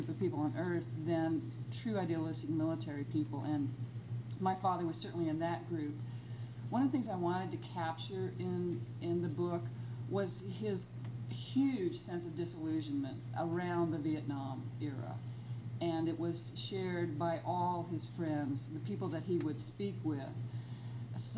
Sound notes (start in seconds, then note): none